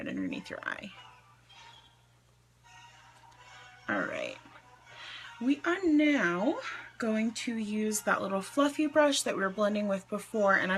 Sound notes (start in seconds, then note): 4.9 inhales